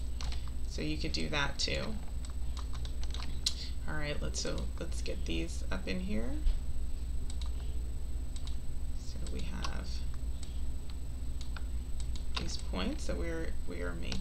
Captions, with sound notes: So you could do that too. (keyboard clicking) All right, so let's get these up in here. (mouse clicking) So we have these points that we're making.